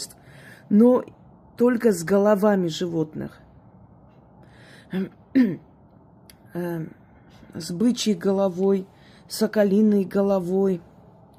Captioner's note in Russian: откашливается